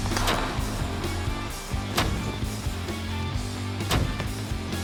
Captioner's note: blade impacts